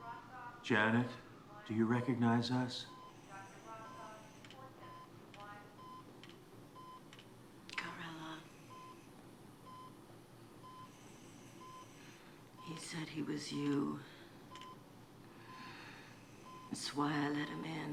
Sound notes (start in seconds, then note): 2.8 heart rate monitor beeping